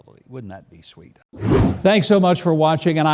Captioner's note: air whooshes